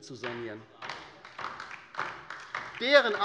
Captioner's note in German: Beifall bei der LINKEN